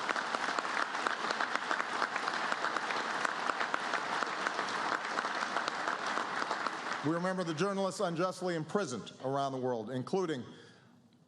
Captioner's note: applause